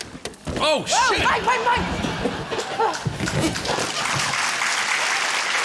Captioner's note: balloons squeak; cheering, applause